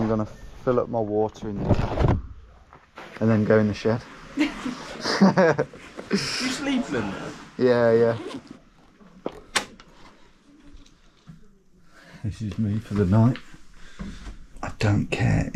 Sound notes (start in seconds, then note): 4.4 teen laughs; 4.9 laughs